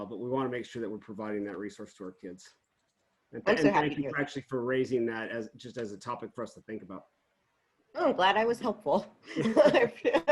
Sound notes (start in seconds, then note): 9.4 laughs